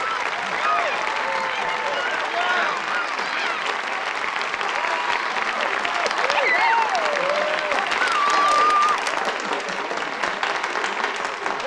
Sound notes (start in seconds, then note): 7.8 yells